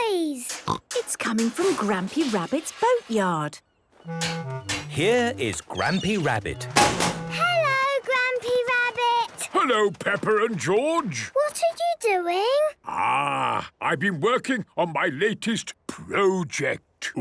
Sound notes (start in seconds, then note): 0.0 distant banging, crashes; 6.9 chrashing